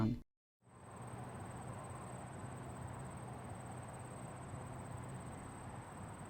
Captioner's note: crickets chirping; air blowing